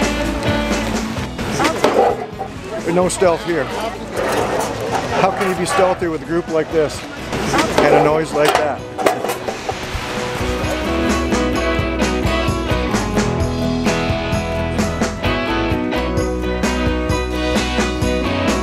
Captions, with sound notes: No stealth here. How can you be stealthy with a group like this? And a noise like that? [metal falling]